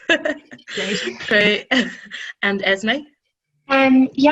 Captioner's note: laughing